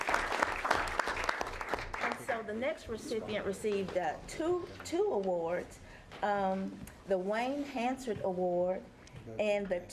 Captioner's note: applause